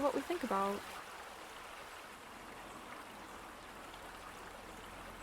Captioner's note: gentle water